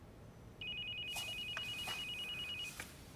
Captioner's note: phone ringing